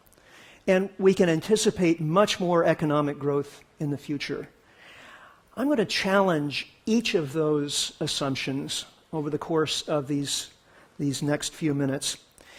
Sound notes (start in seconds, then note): none